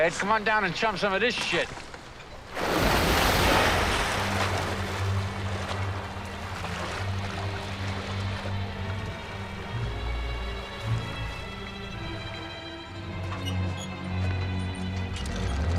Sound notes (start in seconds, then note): 2.3 water splashing; 3.1 dramatic music